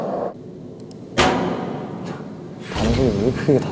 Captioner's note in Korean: 와장창